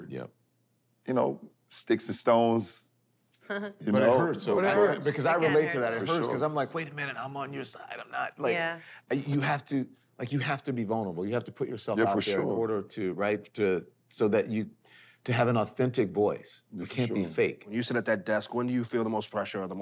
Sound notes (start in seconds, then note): 3.5 laughs